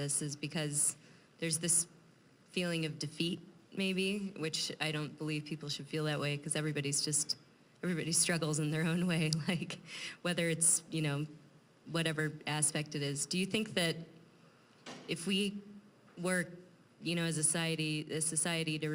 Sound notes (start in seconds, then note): 9.6 chuckling